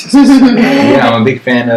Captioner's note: laughs